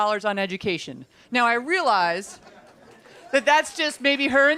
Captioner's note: laughter